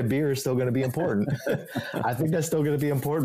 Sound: both laughing

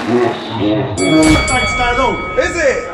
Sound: boxing bell rings

